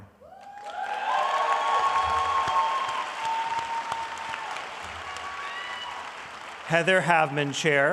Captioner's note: audience applauding